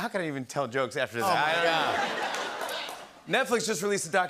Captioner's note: laughter